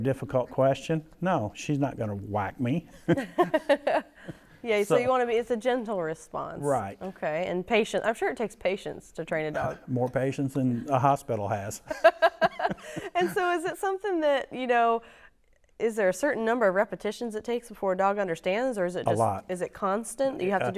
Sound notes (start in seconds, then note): 11.8 laughter